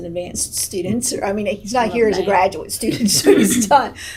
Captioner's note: laughs